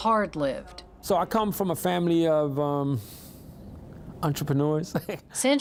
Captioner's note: laughs